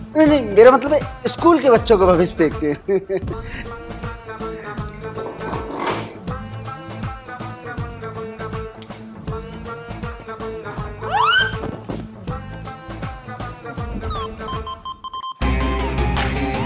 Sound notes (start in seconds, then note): 2.6 laughing